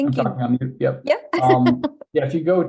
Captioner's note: laughing